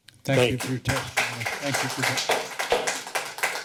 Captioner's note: applause